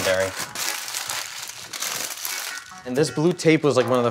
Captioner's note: paper crinkling